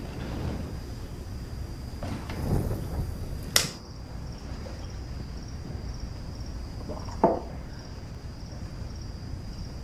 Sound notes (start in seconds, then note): 5.3 crickets chirping outside